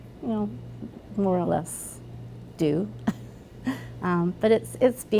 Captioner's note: chuckles